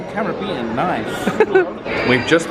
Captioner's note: laughs